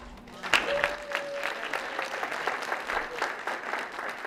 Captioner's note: applause